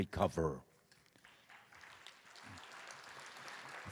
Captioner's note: applause